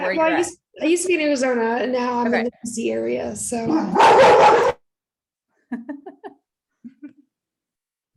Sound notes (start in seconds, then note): 3.6 dog barks abruptly